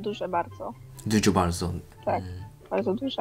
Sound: Polish

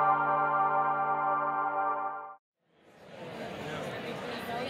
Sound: intro music plays; indistinct chatter

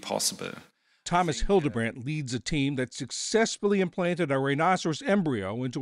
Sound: voice-over

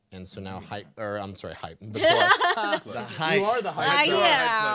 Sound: laughing

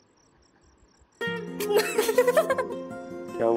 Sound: laughter

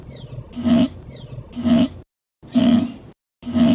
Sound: machine sound

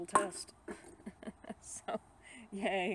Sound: laughs

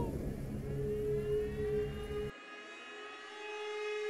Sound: siren blaring

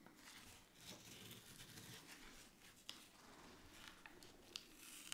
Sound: paper layer crunching

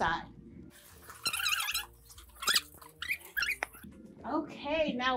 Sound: tape squealing

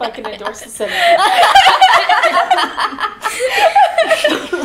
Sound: all laughing

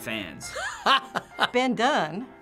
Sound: laughing

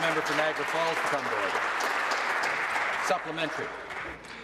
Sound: applause

